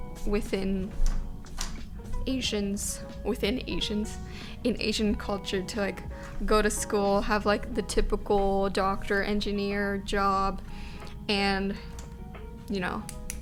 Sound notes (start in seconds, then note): none